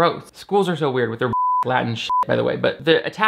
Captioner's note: beep